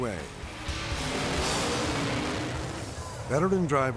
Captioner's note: rock music; engine roaring